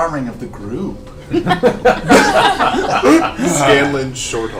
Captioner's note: all laugh